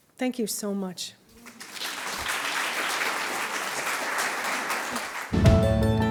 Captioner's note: applause